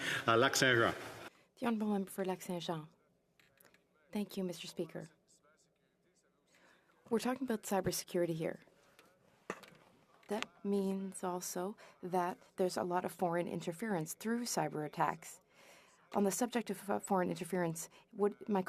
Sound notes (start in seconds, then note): 2.9 speaking French